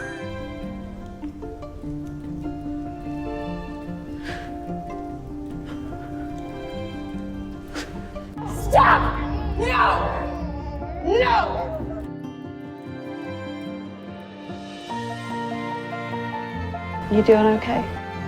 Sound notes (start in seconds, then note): 3.5 Aunt Lydia cries; 8.8 shouting